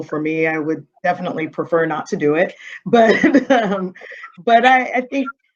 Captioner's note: chuckling